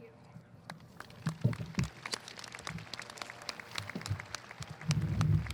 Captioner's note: audience applauding